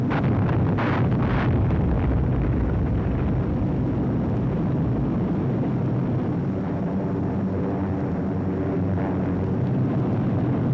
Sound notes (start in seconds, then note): 0.1 bombs booming; 6.2 airplane engines whirring